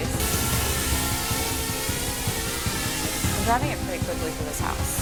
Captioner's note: drone rotors whining